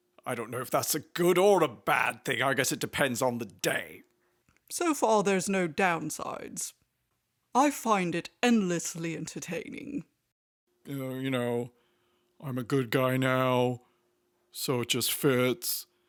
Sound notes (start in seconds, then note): none